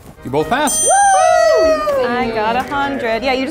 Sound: both screaming

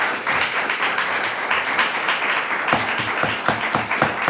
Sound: applause; gavel

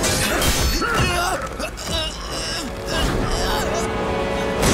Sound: grunting

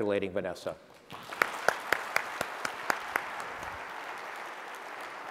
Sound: applause

